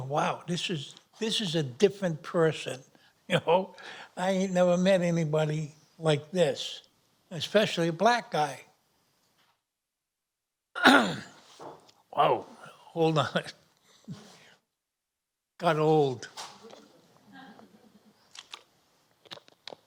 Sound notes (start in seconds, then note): 10.7 clears throat